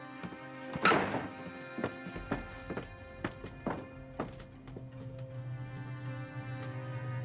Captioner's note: shoes tapping; door slamming